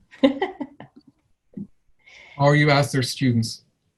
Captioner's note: laughs